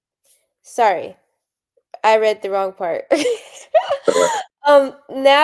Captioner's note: laughs